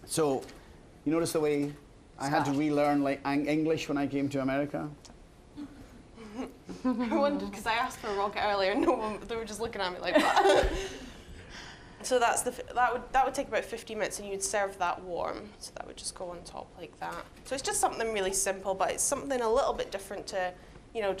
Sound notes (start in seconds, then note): 6.2 chuckling; 10.1 both laughing